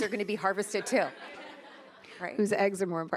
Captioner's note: attendees laughing